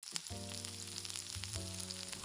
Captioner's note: sizzling sound